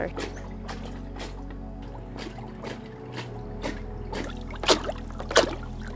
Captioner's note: gentle music; water sloshing